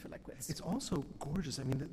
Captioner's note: voiceover